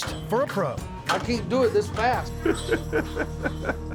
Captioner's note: laughing